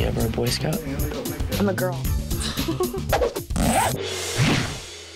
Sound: laughs

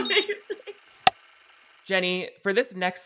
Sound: clapperboard cuts

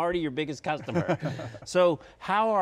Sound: laughs

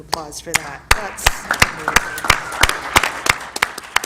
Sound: applause

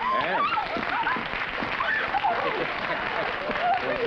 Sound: jubilant squeals

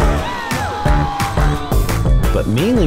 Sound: students cheering; jazz music continues

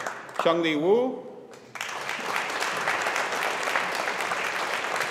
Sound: audience applauding

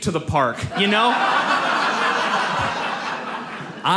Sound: audience laughs

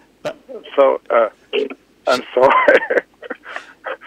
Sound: laughs

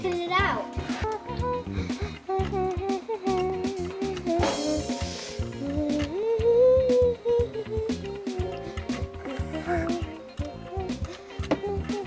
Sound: humming

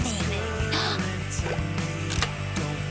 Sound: gasping

